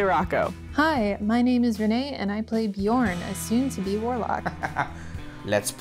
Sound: laughter

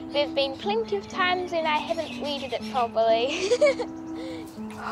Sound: laughs

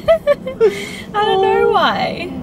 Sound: giggles

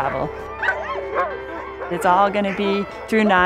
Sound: dogs bark

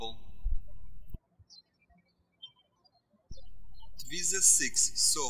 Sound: birds chirping

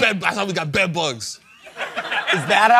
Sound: laughter

